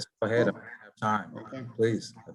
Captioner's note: faintly speaking